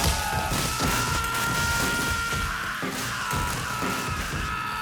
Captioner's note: screaming